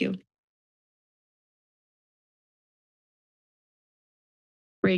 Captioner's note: silence